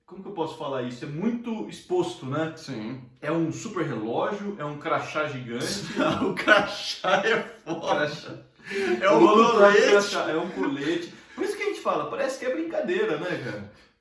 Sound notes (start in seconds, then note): 5.6 laughs